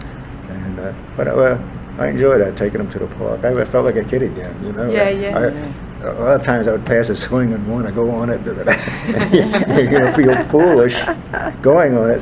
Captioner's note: all laugh